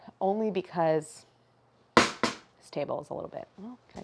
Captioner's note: taps rolling pin